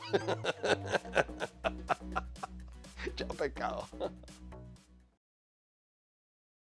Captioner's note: laugh